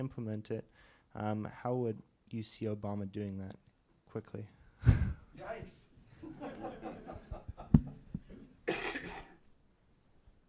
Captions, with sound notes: how would you see Obama doing that, quickly? - Yikes! (laughter)